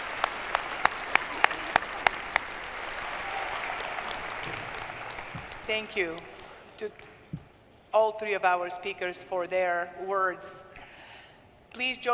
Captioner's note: applause